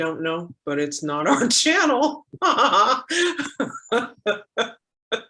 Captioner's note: laughs